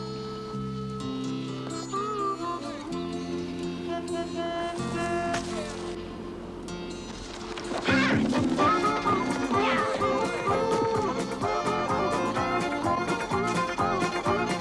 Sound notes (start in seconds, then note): 4.0 car horn blaring; 11.3 upbeat country music